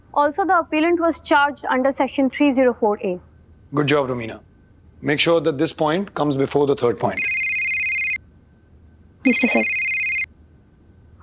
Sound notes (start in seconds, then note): 7.1 mobile ringing